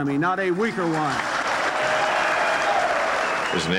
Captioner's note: applause